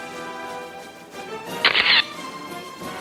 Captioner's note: camera shatters; orchestral music